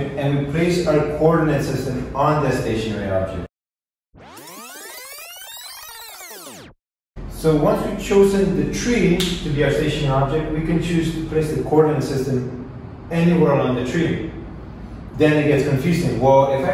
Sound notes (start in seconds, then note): 4.1 vinyl rewinding sound